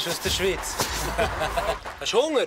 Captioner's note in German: lacht